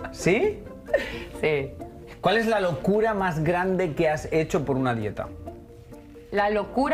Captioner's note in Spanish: risas